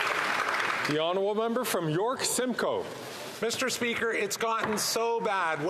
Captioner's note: some Applause